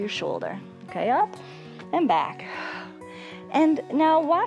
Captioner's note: exhales